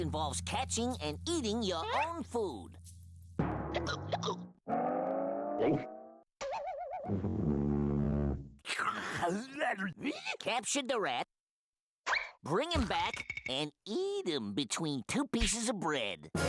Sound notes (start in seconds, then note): 3.6 hiccupping; 8.6 salivating